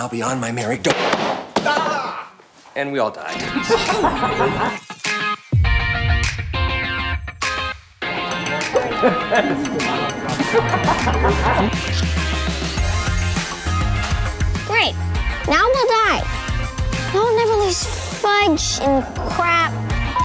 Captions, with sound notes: be on my merry-- doh! Argghh! And we all died. [UPBEAT MUSIC] [CLAPPERBOARD CLAP] Great! Now we'll die. And I'll never lose fudge and crap--